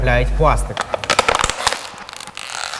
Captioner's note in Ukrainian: звук пластику